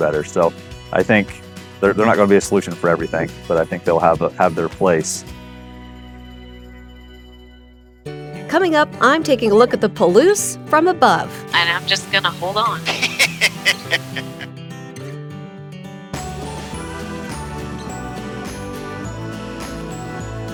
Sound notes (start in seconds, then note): 12.7 laughing; 14.5 uplifting music continues; 16.5 upbeat music